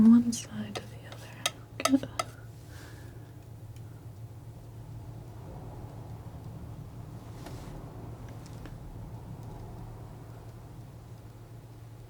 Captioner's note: tapping